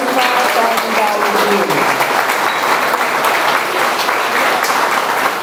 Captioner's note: audience applauds